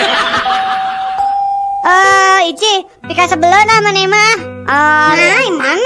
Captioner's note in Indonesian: tertawa